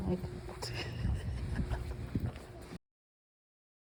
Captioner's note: incredulous laughter